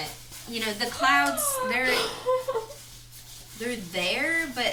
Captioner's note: squeals